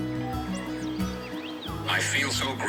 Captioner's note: bird twitters